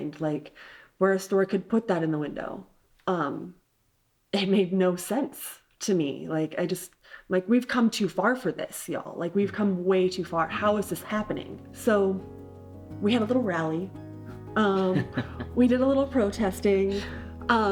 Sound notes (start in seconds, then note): 14.0 uplifting piano music; 14.6 chuckling